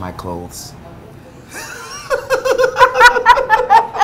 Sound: laughing

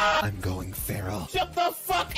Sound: scream; in low tone

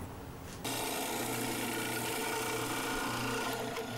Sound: saw buzzing

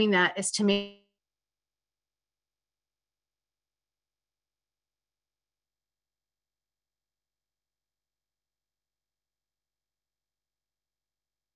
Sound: no audio

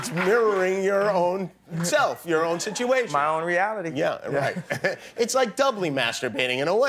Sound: laughter

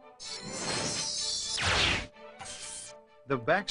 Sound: sparkles exploding

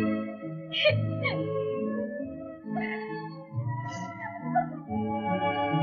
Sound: crying

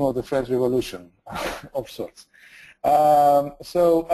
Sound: laughs

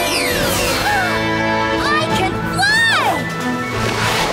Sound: gasping

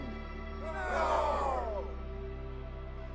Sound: crowd

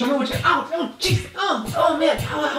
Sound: grunts

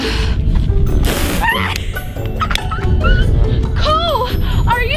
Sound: laughing

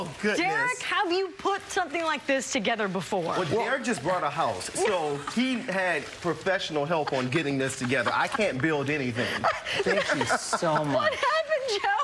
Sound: laughter

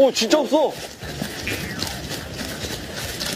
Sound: running

